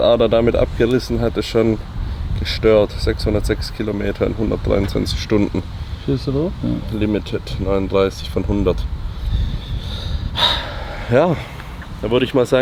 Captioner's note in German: seufzt